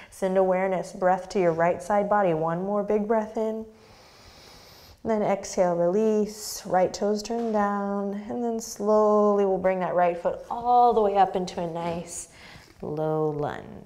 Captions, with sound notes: Send awareness breath to your right side body. One more big breath in. (deep breath) Then exhale, release, right toes turned down, and then slowly we'll bring that right foot all the way up into a nice low lunge.